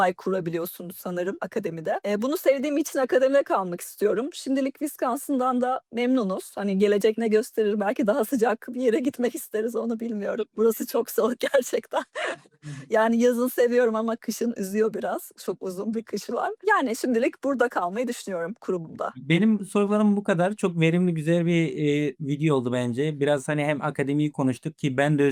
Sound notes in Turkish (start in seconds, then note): 12.0 kahkaha